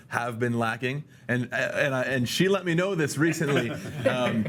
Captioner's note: laughs